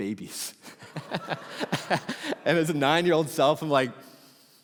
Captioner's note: congregation laughing